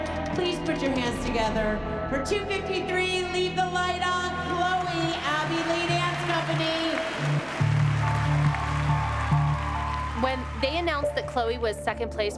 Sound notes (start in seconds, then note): 6.7 cheering and applause